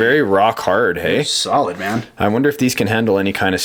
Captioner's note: voiceover